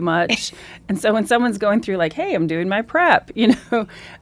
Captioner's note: laughs